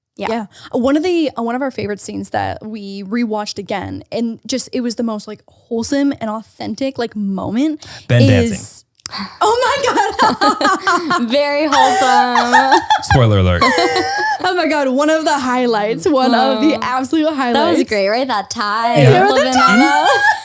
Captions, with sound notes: - Yeah, one of our favorite scenes that we rewatched again and just, it was the most like wholesome and authentic moment is- - Ben dancing. - Oh my god. (everyone laughs) - Very wholesome. - Spoiler alert. - Oh my god, one of the highlights, one of the absolute highlights. - That was great, right, that tie flip in there.